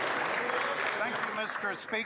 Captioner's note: some Applause